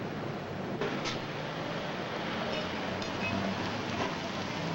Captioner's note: traffic rumbling